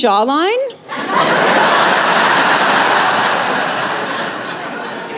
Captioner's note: laughter